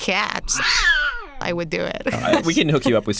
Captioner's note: cat yowling